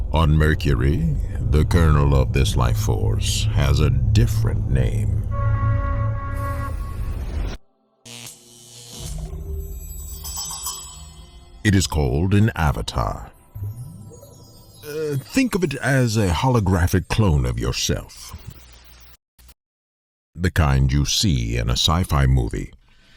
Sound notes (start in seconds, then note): 5.2 spaceship sirens; 9.0 intense music; 14.1 percussion music